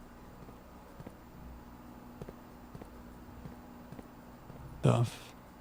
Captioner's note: footsteps